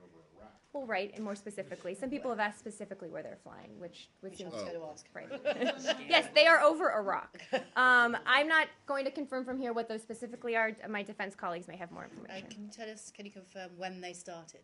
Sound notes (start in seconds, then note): 5.3 laughter